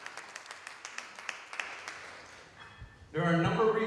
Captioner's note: applause